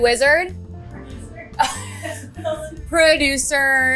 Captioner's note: chuckling